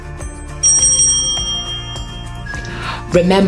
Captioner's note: bell rings